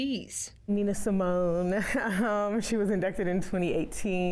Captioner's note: laughing